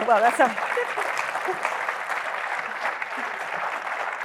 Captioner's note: laughs; applause